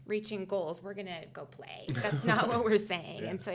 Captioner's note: laughing